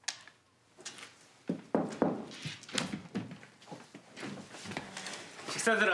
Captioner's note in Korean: 노크 소리